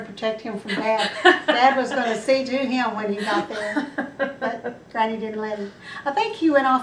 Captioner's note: laughter